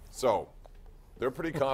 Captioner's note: laughter